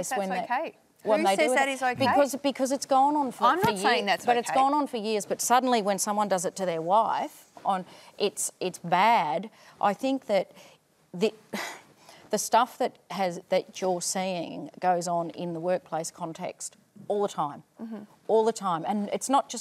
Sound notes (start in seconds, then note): 11.9 sighs